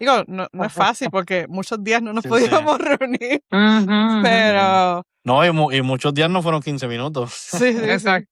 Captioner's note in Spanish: risas